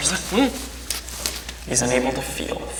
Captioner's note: muffled cries